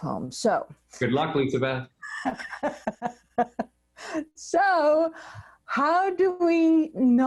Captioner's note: laughs